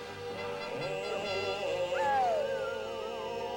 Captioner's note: wolves howling